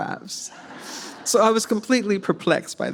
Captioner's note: audience laughs